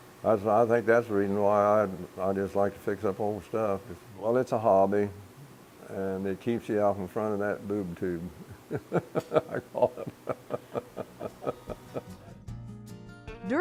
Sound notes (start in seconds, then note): 10.7 laughing